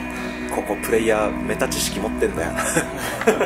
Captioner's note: laughs